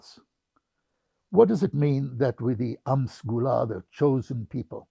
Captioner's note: hebrew